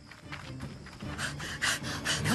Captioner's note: Cameron Panting